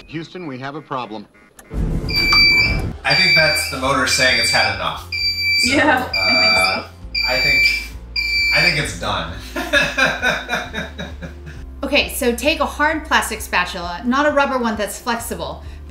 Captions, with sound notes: - Houston, we have a problem. (machine beeps) - I think that's the motor saying it's had enough. So, - Yeah, I think so. - I think it's done. (laughs) - Okay, so take a hard plastic spatula, not a rubber one that's flexible,